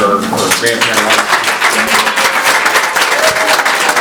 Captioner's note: applause